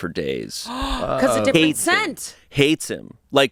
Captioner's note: gasps